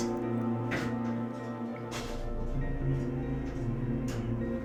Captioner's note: fumbling from cupboard